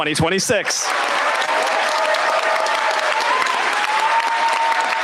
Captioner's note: cheers, applause